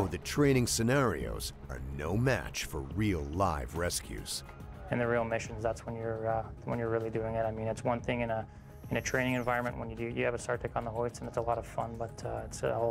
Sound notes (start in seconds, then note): 8.7 voiceover